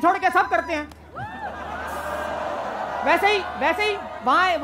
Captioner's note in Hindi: चियरिंग